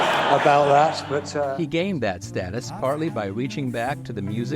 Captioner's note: laughter